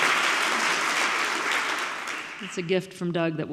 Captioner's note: audience clapping